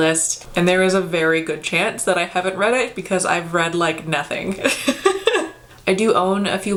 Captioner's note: laughs